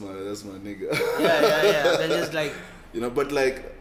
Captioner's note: laughs